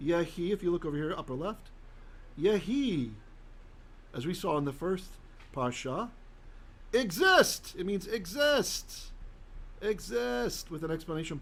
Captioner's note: Hebrew; Hebrew